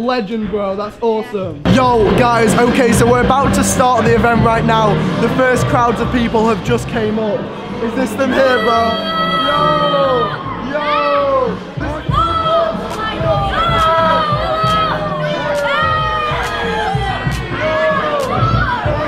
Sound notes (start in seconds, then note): 8.7 crowd yelling; 12.1 crowd yelling and cheering; 16.4 upbeat music